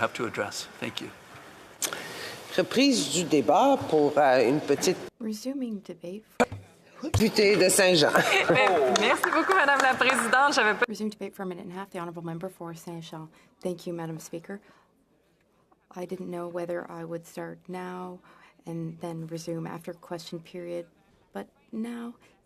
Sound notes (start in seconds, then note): 10.4 speaking French